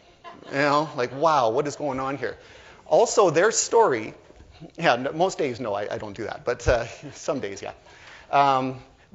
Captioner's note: laughter